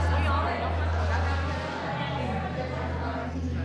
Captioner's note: chatter